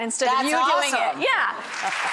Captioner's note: audience claps